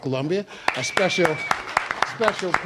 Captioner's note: applause